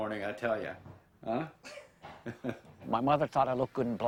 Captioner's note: laughs